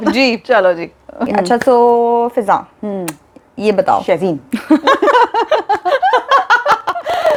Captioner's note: both laugh